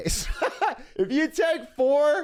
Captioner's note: laughter